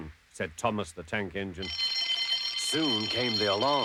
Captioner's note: ringing